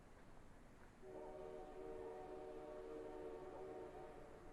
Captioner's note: train horn in distance